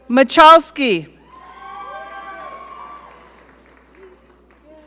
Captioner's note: audience cheering